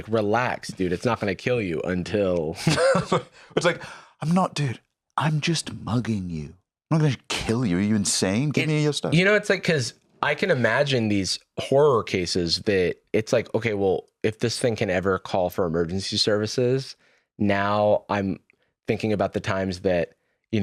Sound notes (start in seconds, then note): 2.5 laughs